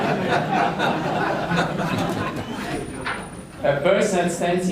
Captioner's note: audience laughing